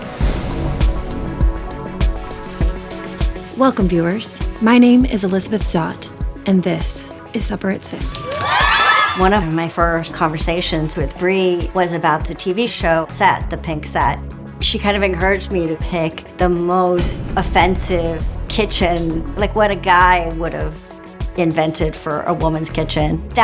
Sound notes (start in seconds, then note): 0.0 ambient music; 8.0 people cheering